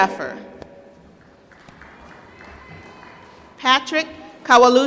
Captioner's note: applause